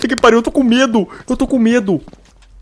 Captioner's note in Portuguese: suspiro